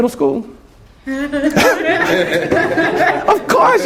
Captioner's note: laughter